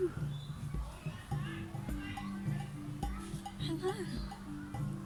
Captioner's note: birds chirping, people chattering